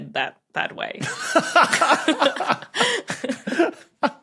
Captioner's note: guffaw